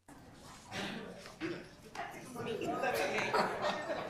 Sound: group chatter

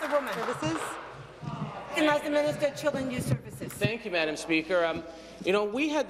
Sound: applause

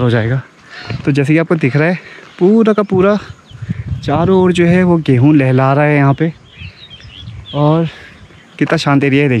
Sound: birds Chirping

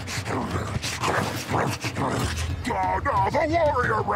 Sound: dramatic music; grunting

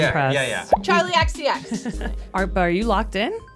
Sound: chucking

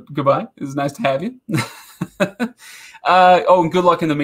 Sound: laughing

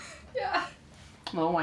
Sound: laughing

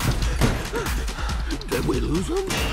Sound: both panting

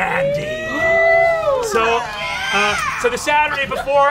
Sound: players cheering

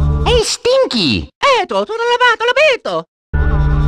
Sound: italian gibberish

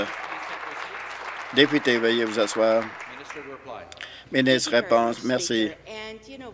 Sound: applause

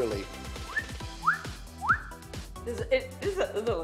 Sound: whistles

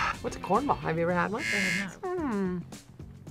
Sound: buzzer rings

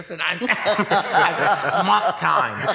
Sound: laughing

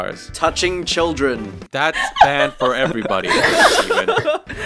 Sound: adorable laugh intensifies; cute laughter galore

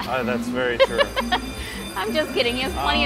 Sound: laughs

